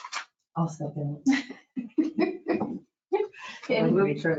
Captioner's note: laughs